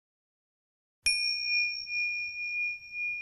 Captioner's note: clopote